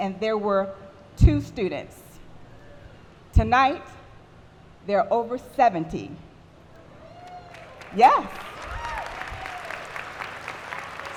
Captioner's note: applause